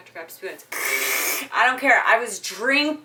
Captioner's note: loud slurping